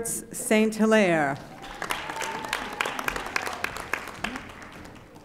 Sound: audience applauding

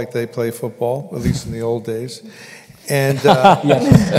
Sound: laughter

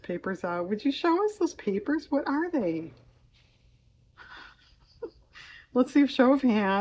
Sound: laughs

